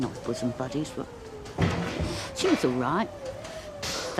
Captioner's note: inhales